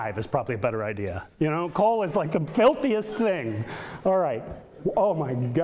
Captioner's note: audience laughter; audience laughter